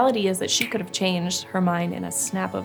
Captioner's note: snaps finger